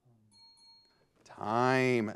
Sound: bell rings

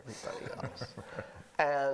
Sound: chuckling

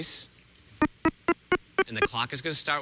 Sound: beeping

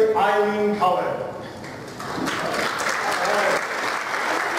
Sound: applause

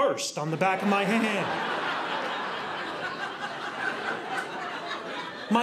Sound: audience laughing

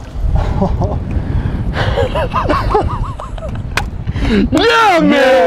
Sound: both chuckling, cheering

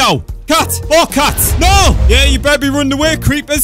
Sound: explosion

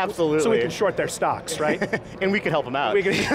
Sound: laughs

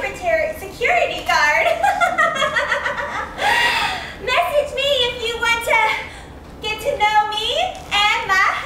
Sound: giggle

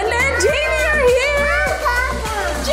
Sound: baby talks

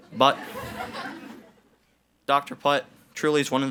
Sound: audience laughs

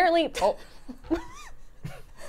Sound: laughs

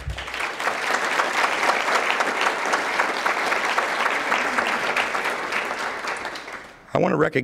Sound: applause

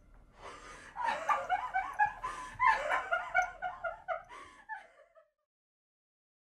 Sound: laughing

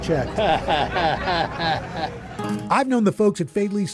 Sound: chuckles

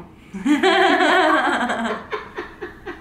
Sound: laughing

